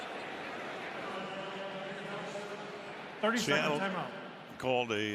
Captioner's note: pa announcement